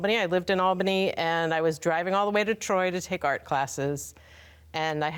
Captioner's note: none